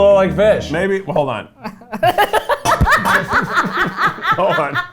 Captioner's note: laughing